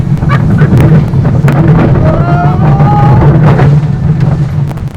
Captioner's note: screams and laughter